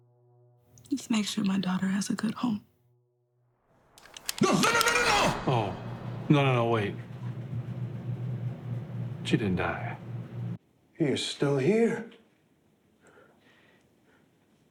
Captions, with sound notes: Just make sure my daughter has a good home. [Gun cocks] No, no, no, no, no, no! Oh, no, no, no, wait. She didn't die. He’s still here.